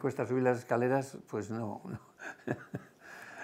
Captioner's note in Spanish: ríe